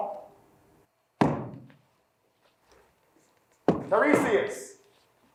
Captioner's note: staff thudding